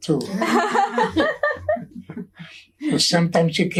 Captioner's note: all laughing